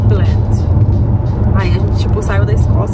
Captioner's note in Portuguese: none